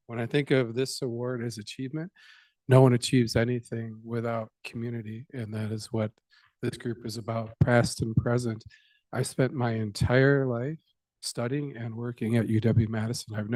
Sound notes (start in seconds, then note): none